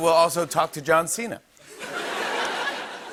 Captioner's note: laughter